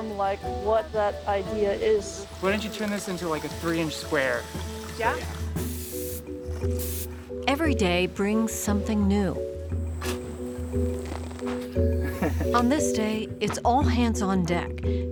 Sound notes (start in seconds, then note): 5.8 water spraying; 10.0 shoveling dirt